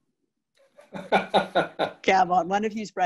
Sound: laughter

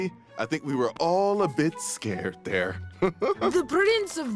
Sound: laughs

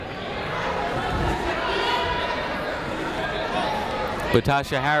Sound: people shouting in the crowd

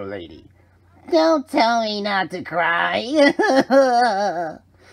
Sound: continues crying

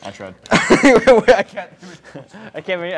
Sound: laughs

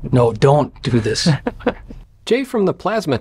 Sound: laughs

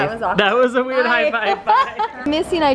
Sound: laughing

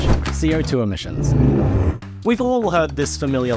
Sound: monster noises

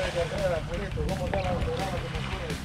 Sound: fish splashing; background chatter

